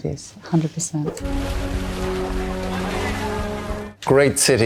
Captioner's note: water splashing; dramatic music